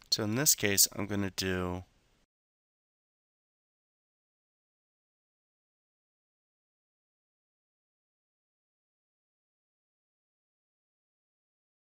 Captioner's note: silence for a minute